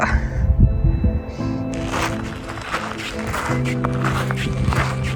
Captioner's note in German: Schritte auf Schotter